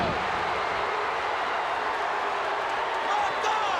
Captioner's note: crowd cheering